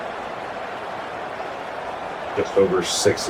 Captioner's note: crowd Noises